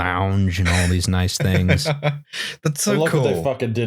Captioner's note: laughs